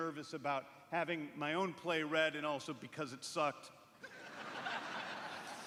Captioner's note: laughter